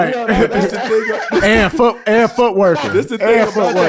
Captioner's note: Rel laughing